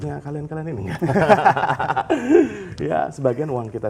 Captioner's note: laughs